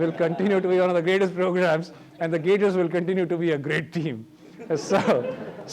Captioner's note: laughter